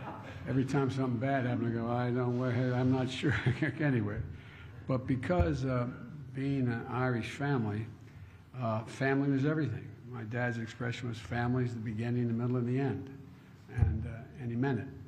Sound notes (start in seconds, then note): 0.0 laughter; 3.3 laughs